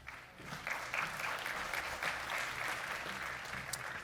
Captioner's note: audience applauds